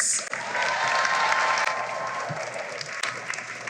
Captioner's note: cheering and applause